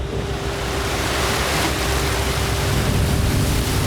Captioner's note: water splashing